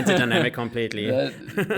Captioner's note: laugh